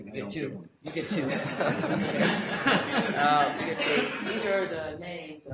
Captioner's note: audience laughter